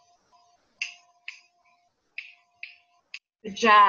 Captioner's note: fingers snapping